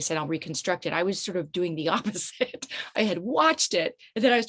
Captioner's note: chuckles nervously